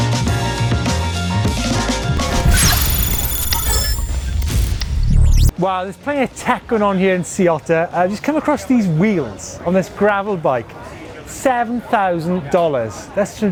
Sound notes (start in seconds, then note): 2.2 electric rumble